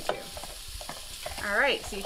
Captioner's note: food sizzling